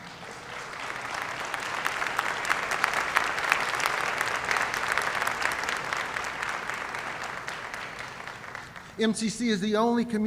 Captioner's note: applause